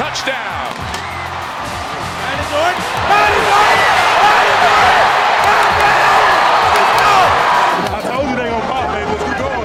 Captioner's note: crowd cheering